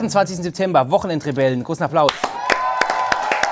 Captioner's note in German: Jubel